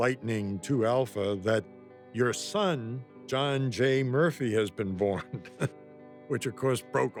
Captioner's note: laughs